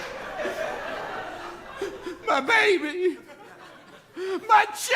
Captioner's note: laughter; crying